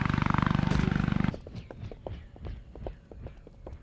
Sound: propellers whirring

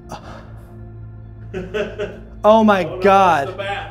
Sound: laughing

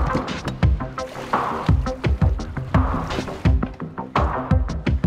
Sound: dramatic music begins; water splashing

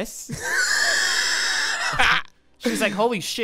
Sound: laughs

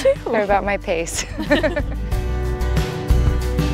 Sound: laughing; soothing music

